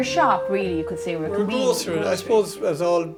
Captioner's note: voiceover